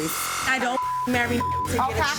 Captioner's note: beep